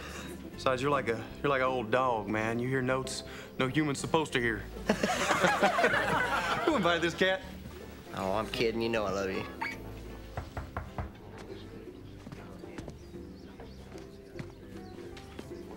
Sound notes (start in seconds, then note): 4.8 laughing; 10.3 knocking on door